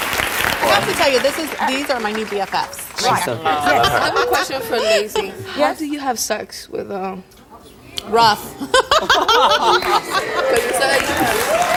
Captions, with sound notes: I have to tell you, these are my new BFF's right here. - She's so fierce, I love her. - Question for Lacy, how do you have sex with uh? - Rough (laughs)